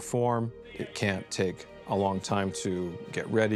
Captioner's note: indistinct chatter